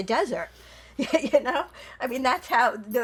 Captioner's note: laughing